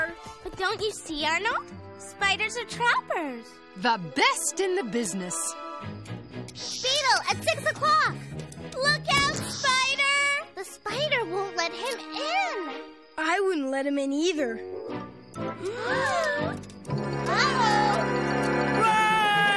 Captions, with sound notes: BUT DON'T YOU SEE, ARNOLD? SPIDERS ARE TRAPPERS. THE BEST IN THE BUSINESS. BEETLE AT 6:00. LOOK OUT, SPIDER! THE SPIDER WON'T LET HIM IN. I WOULDN'T LET HIM IN, EITHER. [ ALL GASP ] UH-OH! UH-OH! UH-OH! RUN!